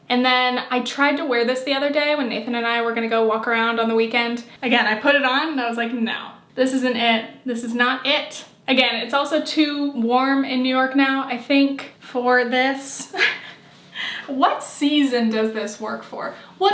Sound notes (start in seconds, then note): 13.2 laughing